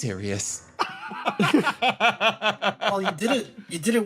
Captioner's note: laughs